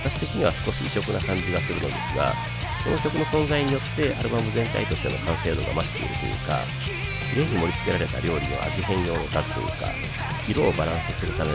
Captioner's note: laughs